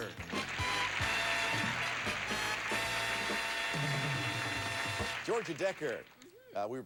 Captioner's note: audience applauding